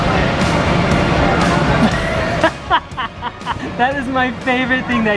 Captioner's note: laughs